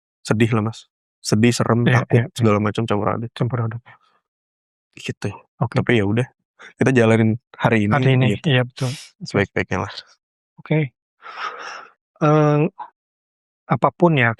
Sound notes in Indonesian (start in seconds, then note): 8.7 menghela napas; 11.3 terkesiap